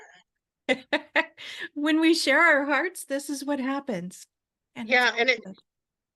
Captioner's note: laughs